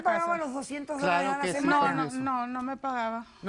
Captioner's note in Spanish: Hablan al unísono